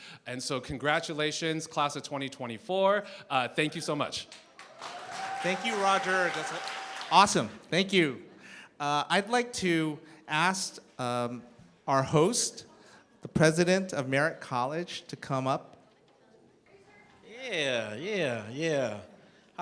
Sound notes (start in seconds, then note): 4.3 cheering, applause